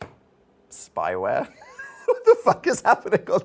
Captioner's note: laughing